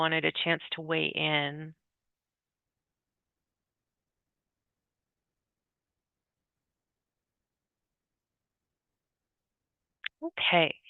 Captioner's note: pause